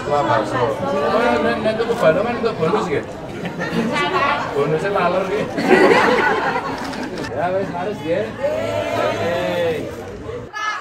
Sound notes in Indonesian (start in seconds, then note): 5.4 tertawa